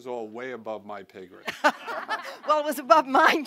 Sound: laughter

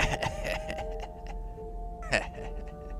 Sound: forbidding Laughter

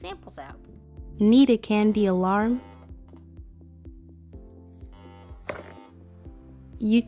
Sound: alarm sound, box closing

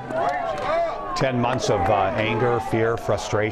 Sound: cheers and applause

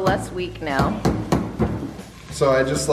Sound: jar thumping

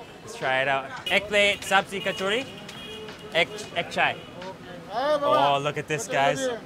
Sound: speaking foreign language

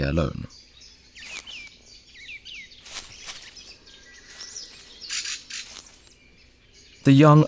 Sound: sounds of nature

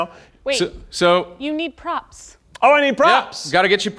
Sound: none

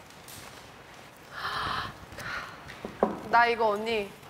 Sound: sighing

